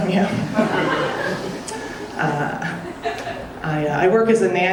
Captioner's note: audience laughing